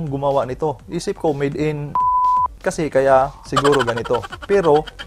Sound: beep

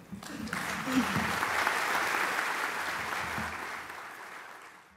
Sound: applause

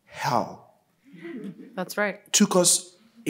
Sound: audience laughing

